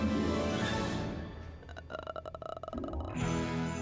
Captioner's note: groans; sleigh bells jingling